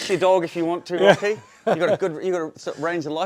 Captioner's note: chuckles